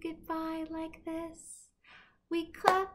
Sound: clapping

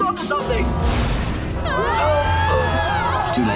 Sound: screaming

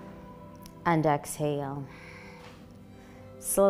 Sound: exhaling

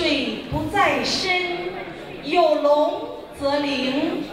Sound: crowd talking; speaking in Mandarin

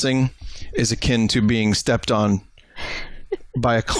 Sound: laughs

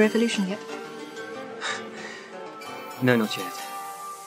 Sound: sighs

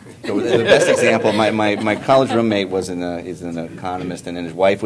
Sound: laughter

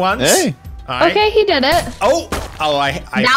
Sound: gunshot

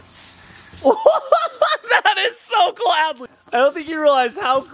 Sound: laughs

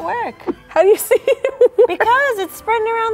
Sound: laughing

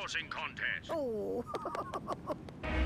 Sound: giggling

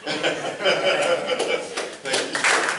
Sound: laughs

